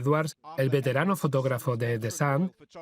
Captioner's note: voiceover